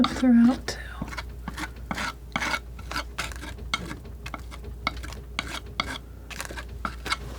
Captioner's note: scraping